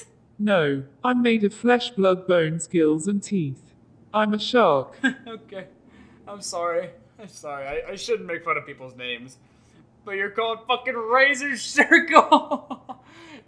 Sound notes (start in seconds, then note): 4.8 Pidgy chuckling